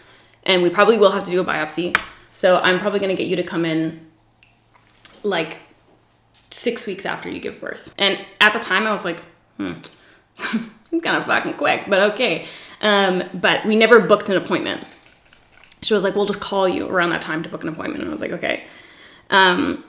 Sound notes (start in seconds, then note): 9.7 sucks teeth